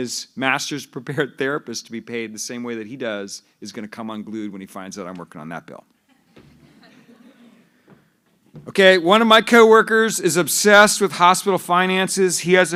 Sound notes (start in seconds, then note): 6.1 laughter